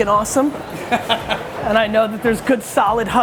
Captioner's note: laughing